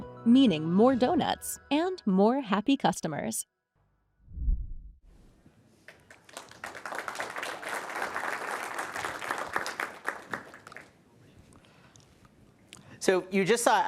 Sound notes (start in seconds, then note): 5.8 applause